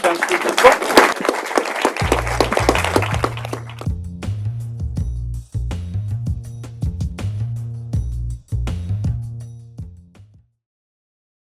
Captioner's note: applause